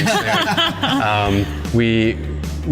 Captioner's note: everyone laughs